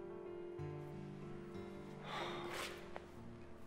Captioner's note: sighs